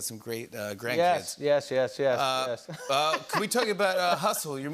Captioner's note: laughs